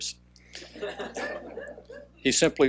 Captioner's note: laughing